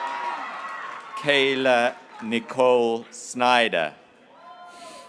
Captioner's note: graduates cheering